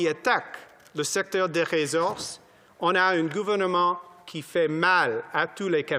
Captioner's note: speaking French